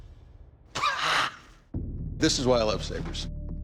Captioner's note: laughs